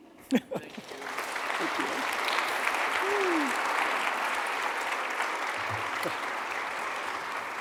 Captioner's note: attendees clapping